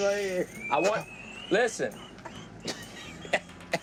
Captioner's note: wheezy laughter; laughing